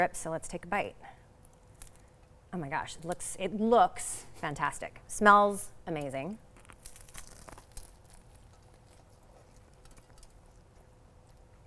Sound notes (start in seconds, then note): 6.5 lettuce crunching